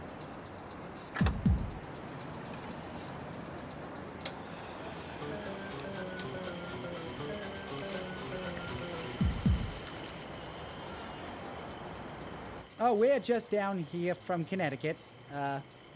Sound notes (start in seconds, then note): 1.5 gas pump clicks; 4.3 gas splashing